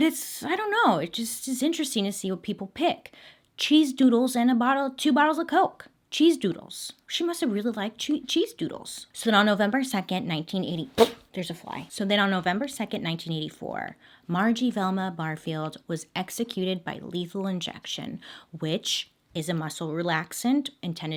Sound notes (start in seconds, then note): 11.0 blowing lips